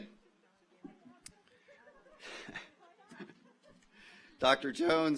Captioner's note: overlapping chattering; audience laughs